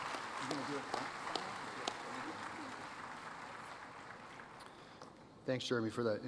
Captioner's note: applause